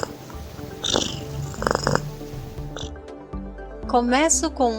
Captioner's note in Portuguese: ronrom